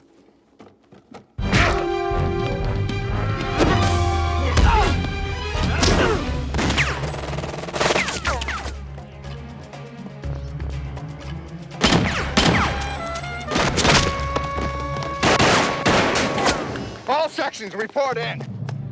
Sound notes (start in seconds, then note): 2.8 dramatic music; 2.8 punches landing; 8.1 dramatic music; 8.1 guns firing